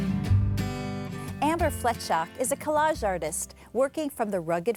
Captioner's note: acoustic guitar music; voiceover